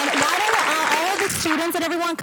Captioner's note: applause